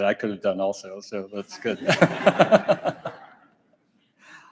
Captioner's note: audience laughs; laughs